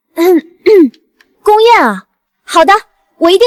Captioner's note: ahem